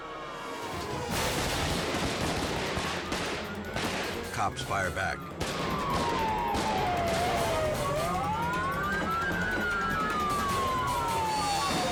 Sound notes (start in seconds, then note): 0.3 dramatic music; 1.2 guns firing; 5.6 dramatic music continues